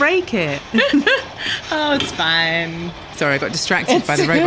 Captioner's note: laughs